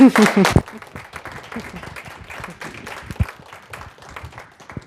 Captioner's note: applause